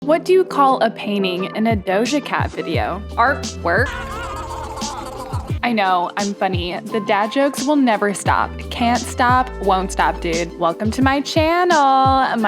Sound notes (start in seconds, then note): 3.8 spongebob laughing